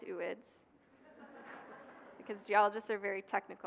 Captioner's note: audience laughing